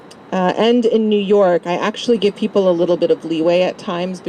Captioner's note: none